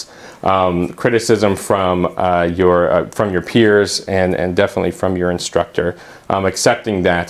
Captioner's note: uumm